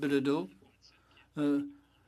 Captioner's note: speaking French